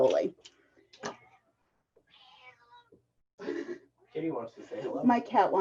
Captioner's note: cat meows